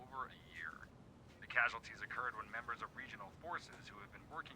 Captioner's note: newscaster, on TV